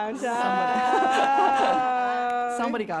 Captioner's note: laughter